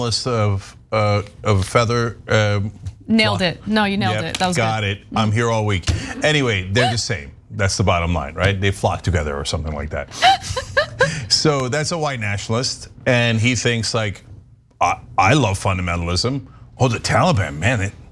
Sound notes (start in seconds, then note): 10.2 laugh